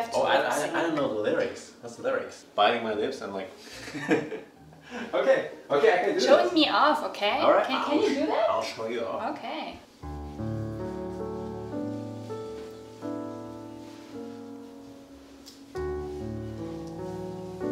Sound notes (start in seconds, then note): 3.8 laughs